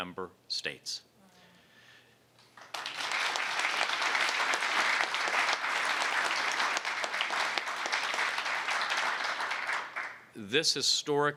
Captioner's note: applause